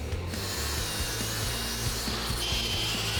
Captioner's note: blade sharpening